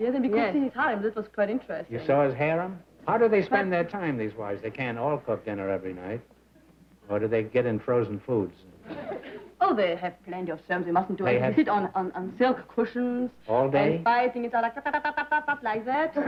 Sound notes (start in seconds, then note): 11.6 chatter